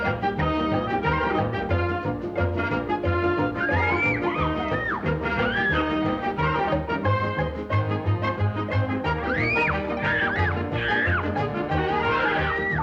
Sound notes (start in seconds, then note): 3.5 riders scream; 9.2 riders screaming